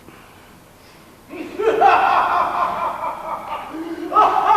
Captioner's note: Abe laughs boisterously